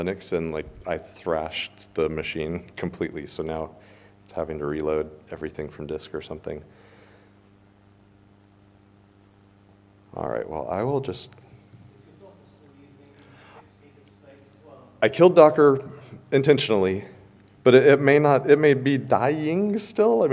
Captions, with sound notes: and, like, I thrashed the machine completely. So now it's having to reload everything from disk or something. All right, well, I will just. (man speaks softly) I killed Docker intentionally. But it may be dying still.